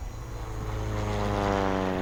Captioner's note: rotors whirring